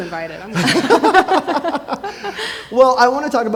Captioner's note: laughing